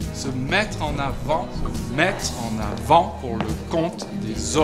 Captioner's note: speaking french